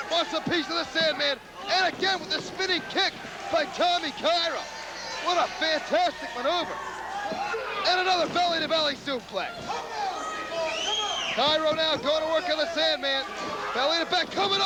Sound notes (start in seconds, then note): 1.7 crowd cheering